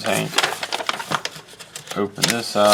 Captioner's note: paper rusting